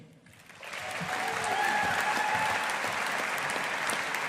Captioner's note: audience applauding